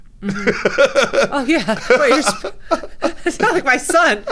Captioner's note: both laughing